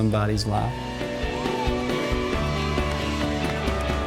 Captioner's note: cheering